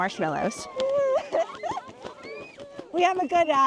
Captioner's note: cheering